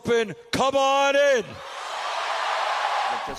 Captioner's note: cheering and applause